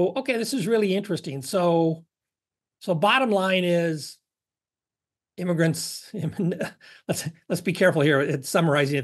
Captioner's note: laugh